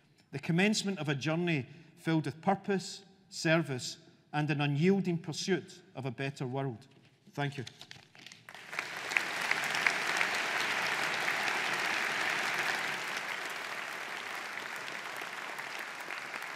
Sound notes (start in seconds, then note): 8.4 audience applauding